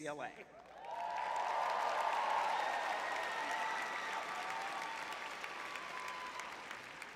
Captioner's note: cheering